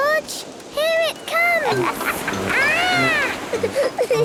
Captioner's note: laughs